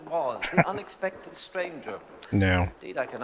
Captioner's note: chuckling